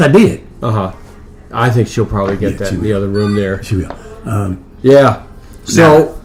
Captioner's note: phone rings